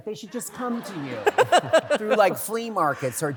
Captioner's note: laughter